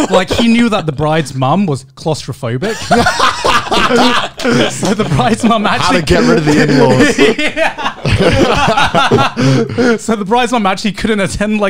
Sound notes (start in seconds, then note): 2.6 everyone laughs